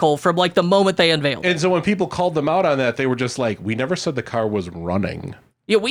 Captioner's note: none